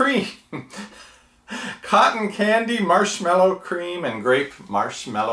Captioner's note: laughs